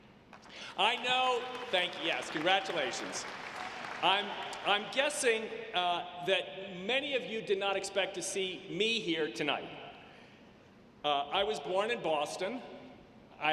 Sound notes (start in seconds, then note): 3.2 audience clapping